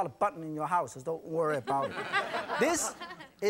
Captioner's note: audience chuckles